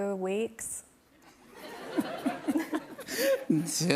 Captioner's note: laughter